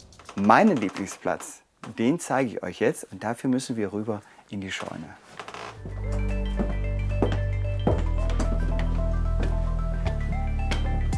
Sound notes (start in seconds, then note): 4.7 wood creak; 5.8 friendly music